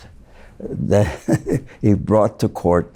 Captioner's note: laughs